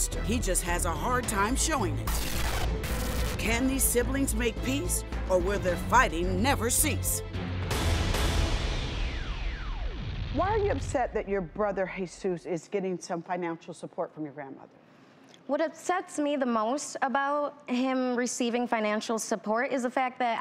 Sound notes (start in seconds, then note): 2.0 TV Static; 7.1 dramatic music